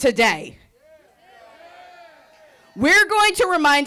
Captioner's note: group cheering